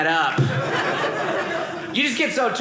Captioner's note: audience laughing